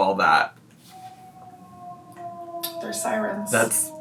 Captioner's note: siren wailing